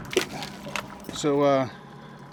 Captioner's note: plastic bag rustling; lid closing